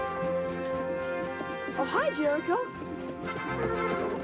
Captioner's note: horse whinnies